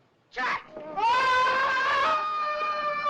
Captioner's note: screams; screaming